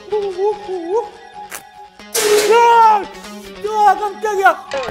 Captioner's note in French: Explosion au moment où il mord